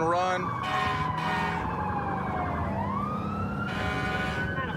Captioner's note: emt sirens blaring